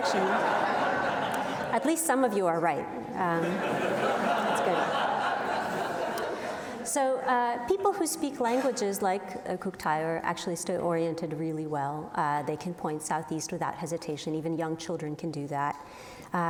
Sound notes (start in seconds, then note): 0.0 audience laughs; 3.3 audience laughs